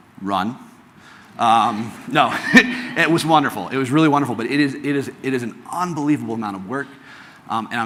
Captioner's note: laughs